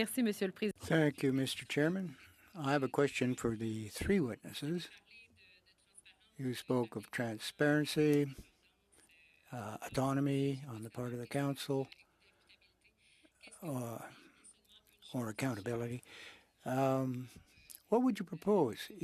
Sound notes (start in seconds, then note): 6.5 speaking French